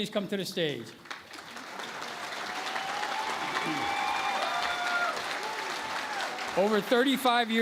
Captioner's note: cheering and Applause